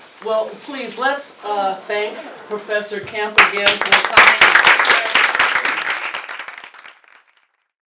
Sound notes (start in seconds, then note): 0.3 laugh; 3.3 applause